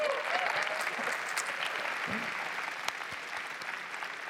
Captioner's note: applause